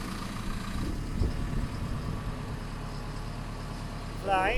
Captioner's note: engine running